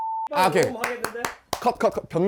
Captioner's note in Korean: 짝 짝 짝